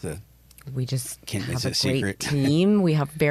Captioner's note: chuckles